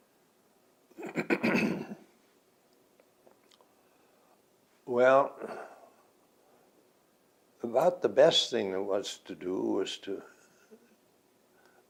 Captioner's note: clears throat